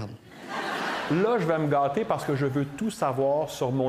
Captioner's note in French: rires